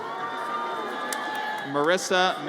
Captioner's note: audience cheers